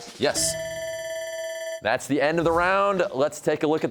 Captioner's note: bell rings